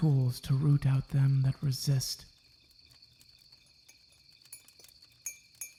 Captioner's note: tea cups clank. The pair sip